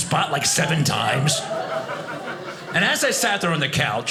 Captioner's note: audience laughing